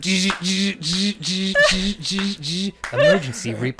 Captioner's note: mimics alarms buzzing